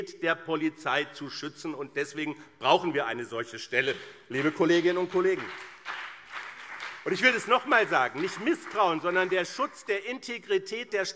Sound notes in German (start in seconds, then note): 4.3 Beifall BÜNDNIS 90/DIE GRÜNEN und CDU